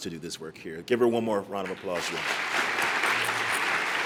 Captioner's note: applause